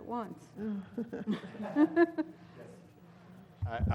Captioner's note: laugh